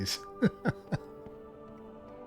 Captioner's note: chuckles